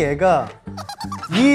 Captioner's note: laughing